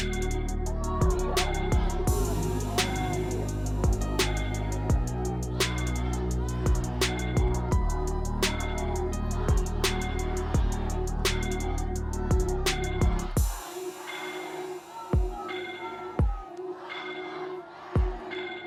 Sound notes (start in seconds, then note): 4.0 crowd